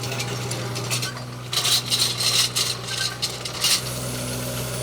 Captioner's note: auger rattling